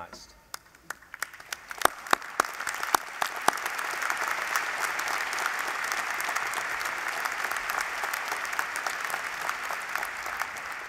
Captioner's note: applause